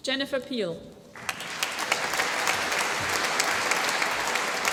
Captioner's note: applause